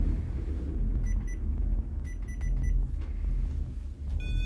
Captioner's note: electronic beeping